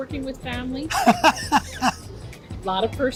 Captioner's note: laughs